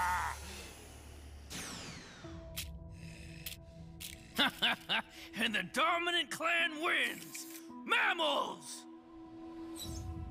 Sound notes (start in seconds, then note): 4.4 laughing